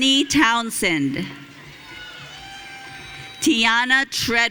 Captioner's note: audience cheering